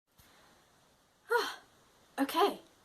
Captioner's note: sigh